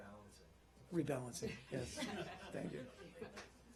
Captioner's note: laughter